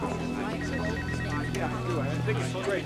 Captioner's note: chatter